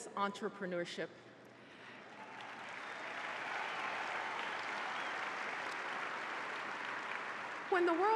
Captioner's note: applause